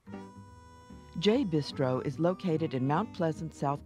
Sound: voiceover

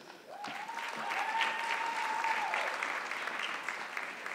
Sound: audience clapping

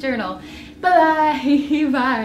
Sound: giggle

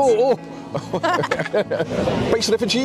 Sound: laughing

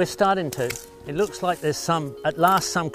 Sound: twig snaps

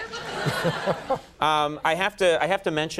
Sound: laughter

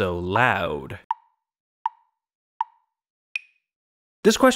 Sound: tick, tick, tick, tick, tock

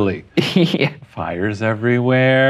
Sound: laughing

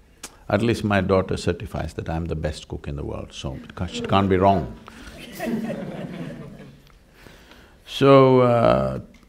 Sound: laughter

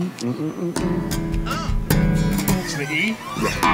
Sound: humming in rhythm

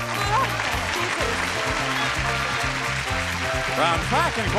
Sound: audience cheering

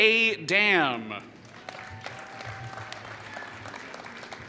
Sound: applause

